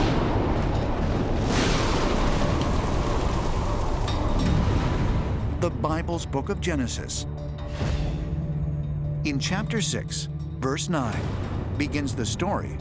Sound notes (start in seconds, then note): 0.0 thunder; 0.4 dramatic music; 2.6 rain